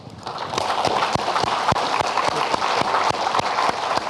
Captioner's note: audience clapping